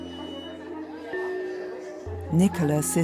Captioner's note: chattering